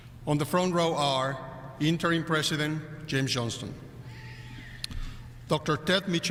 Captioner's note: none